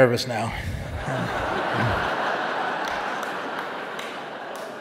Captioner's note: audience laughing